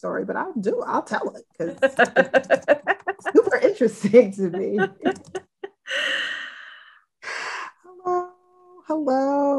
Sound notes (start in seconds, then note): 1.6 laughing